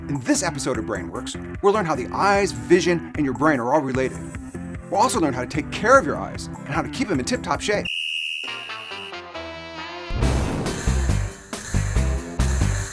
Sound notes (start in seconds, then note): 7.8 whistle blowing